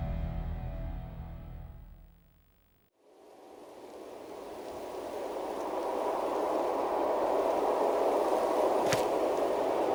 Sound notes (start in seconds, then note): 4.7 rushing winds